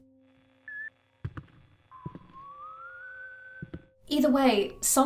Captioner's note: whistling cuts in and out